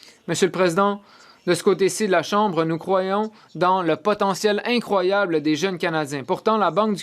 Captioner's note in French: voix de l'interprète